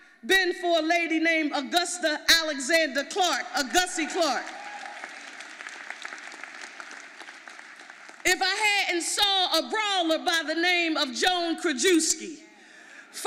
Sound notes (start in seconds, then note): 4.4 audience applauding